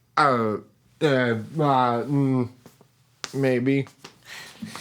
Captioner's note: mutters